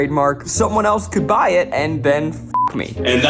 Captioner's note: beep